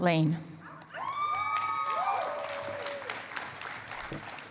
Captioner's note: cheering and applause